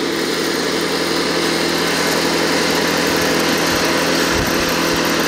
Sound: machine engine roaring

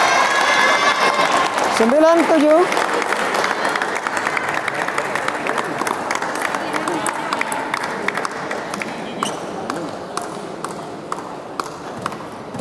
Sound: applause

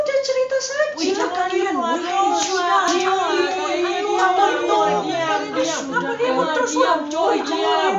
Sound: all arguing

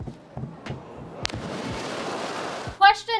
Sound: water splashes

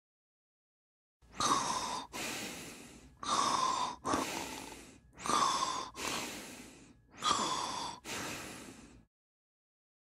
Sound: sound of man breathe

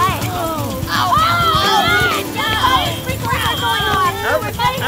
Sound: yelling

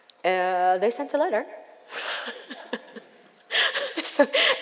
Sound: laughs

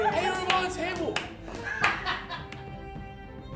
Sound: laughter

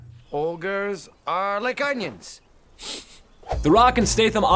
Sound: Donkey sniffs

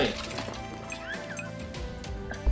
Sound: laughs softly

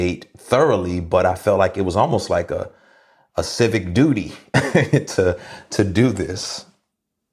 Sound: laughs

